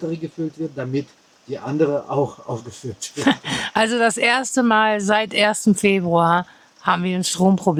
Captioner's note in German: gelächter